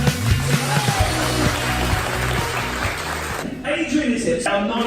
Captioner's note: audience applause